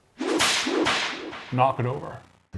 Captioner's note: loud slap